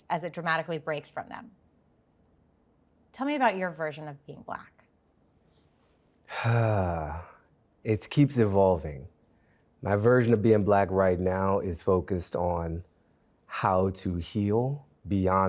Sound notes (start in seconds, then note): 6.3 sighs